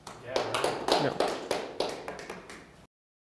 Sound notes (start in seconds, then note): 0.0 audience clapping